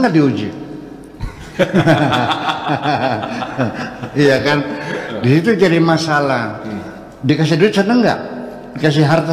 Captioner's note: laughs